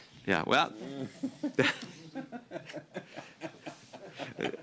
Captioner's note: laughter